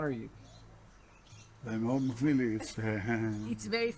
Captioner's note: speaking Hebrew